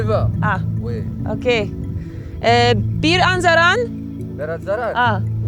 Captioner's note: both speak foreign language